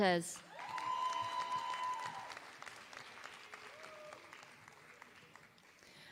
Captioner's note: applause